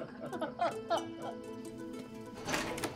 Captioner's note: both laugh